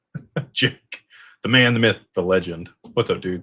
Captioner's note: laughter